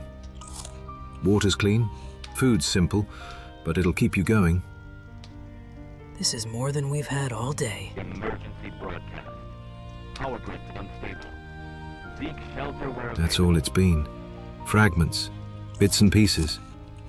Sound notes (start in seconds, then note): 7.6 radio announcement